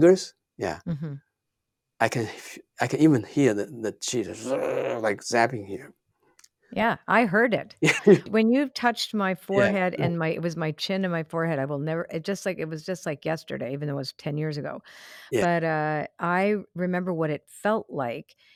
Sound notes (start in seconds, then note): 4.0 groaning; 7.8 laughs